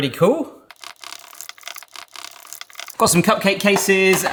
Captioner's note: batter whizzes